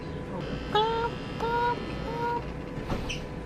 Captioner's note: clucks